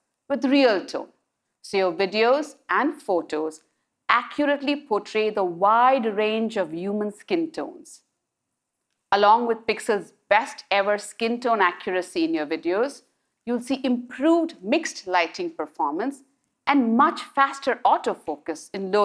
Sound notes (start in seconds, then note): none